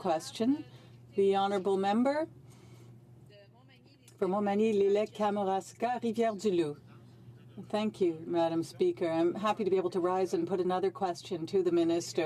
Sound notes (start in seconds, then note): 2.8 speaking French